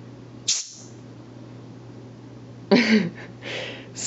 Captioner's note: air hisses